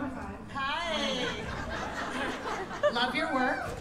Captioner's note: laughter